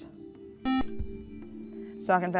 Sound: buzzer

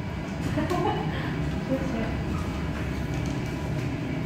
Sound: laughs

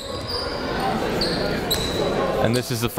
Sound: crowd talking

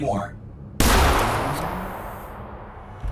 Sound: gunshot

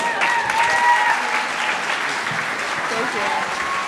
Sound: audience cheering

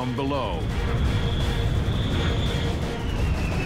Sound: plane whistling

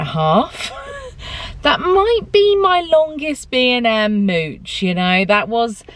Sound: laughs

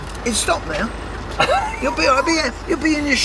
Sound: laughs

